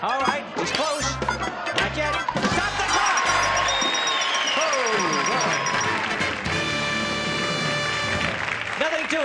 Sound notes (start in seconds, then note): 3.4 bell ringing; 5.9 audience cheers